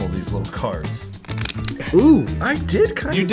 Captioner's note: cards shuffling